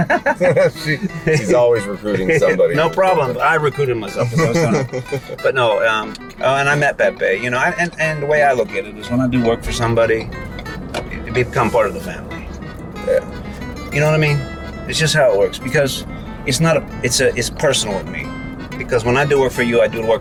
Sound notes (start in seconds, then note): 0.0 chuckles